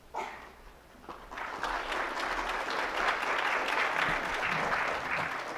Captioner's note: audience applauds